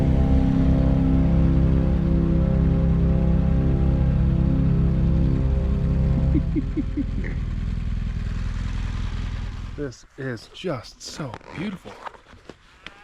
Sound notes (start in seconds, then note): 6.1 laughs at dumb cow